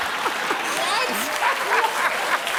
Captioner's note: laughter and applause; laughter